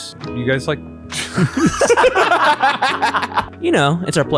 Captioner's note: group laughs